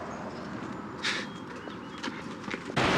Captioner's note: scoffs